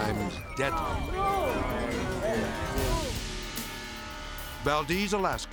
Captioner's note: people gasping; people gasping